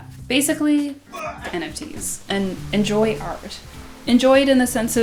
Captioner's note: grunt